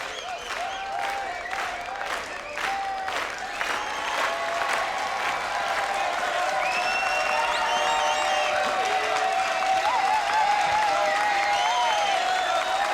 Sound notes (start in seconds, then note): 1.6 crowd; 7.9 clapping and cheering